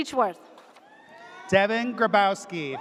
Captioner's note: audience cheers